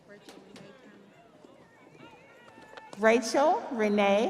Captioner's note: audience cheering; audience applauding